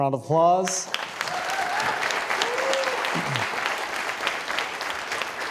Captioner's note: audience applauding